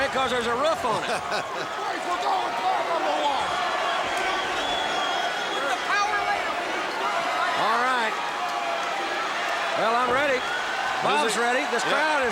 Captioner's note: laugh